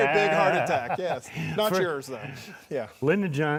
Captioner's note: laughing